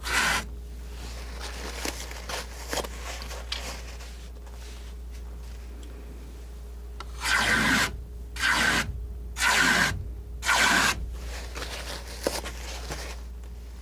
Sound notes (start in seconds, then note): 2.4 scratching